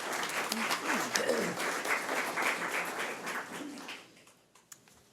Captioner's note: audience applause